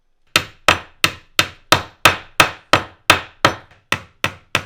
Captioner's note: hammer banging